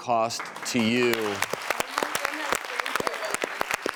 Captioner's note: applause